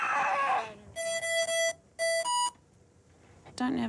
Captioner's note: shrieks; beep! beep! beep!